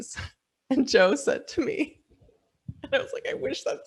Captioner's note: laughing